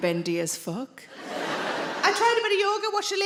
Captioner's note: audience laughing